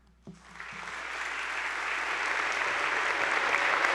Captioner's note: attendees applauding